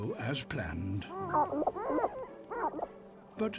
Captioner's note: clucks